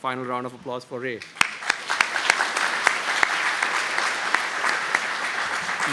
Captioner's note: applause